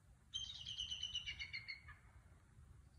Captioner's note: sound of bald eagle calling